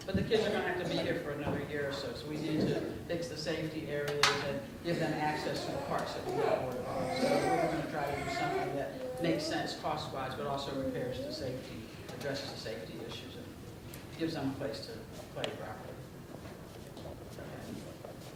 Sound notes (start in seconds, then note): 6.8 speaking softly